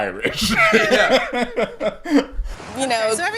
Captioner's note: laughing